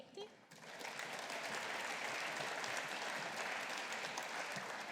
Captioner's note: audience applauding